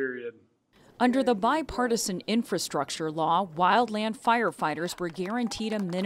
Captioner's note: voice-over